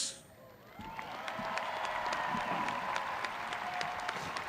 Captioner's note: graduates cheering